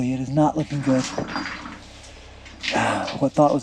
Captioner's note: rocks jingling